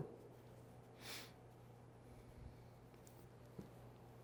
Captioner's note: sniffles